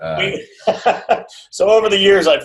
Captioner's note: laughs